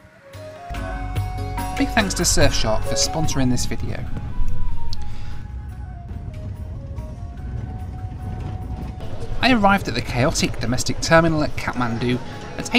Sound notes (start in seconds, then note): 0.4 upbeat music; 5.8 car howling